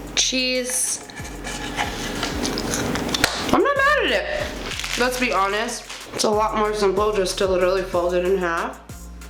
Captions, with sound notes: Cheese. (crunching) I'm not mad at it. Let's be honest, it's a lot more simple just to literally fold it in half.